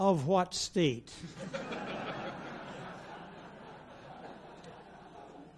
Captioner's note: audience laughs